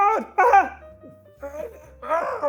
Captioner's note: laughs